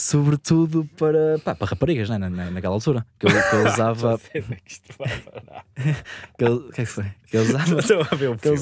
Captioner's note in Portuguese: risos